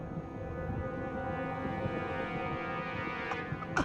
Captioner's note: civil defense siren